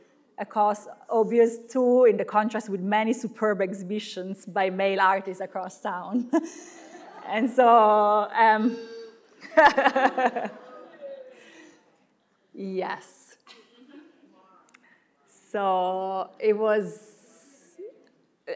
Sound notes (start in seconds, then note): 6.6 laughing; 9.2 laughing; 13.6 crowd murmuring